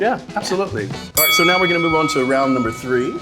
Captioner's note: bell dings